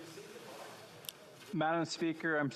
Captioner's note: speaking FRENCH